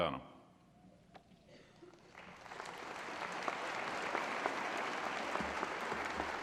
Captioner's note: applause